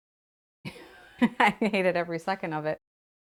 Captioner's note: laughs